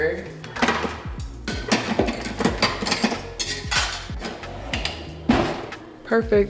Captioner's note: kitchen appliances clanking in drawer